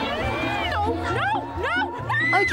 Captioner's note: screams